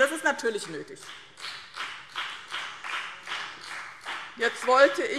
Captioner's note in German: Beifall BÜNDNIS 90/DIE GRÜNEN